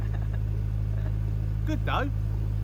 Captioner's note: laughter